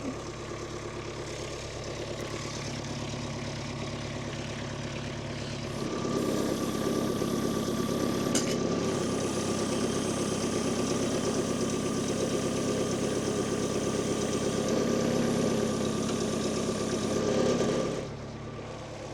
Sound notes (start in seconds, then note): 2.8 engine humming continues; 13.3 engine humming continues